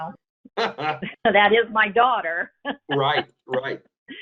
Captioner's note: laughs; laughs